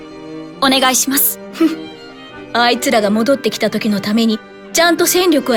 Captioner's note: giggle